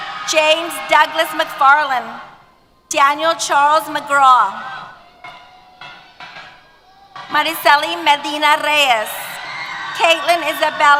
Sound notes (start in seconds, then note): 4.2 cheers